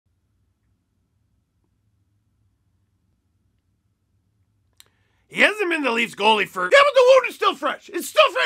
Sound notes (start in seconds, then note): 0.0 silence